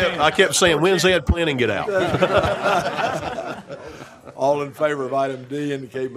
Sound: laughter

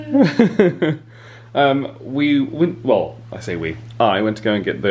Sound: chuckles

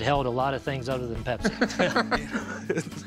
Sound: laughter

